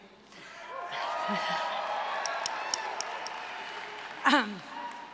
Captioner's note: applause, cheering